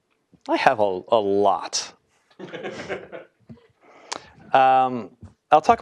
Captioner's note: laugh